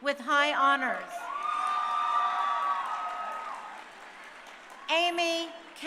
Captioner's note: crowd cheering